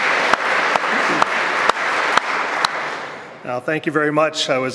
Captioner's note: applause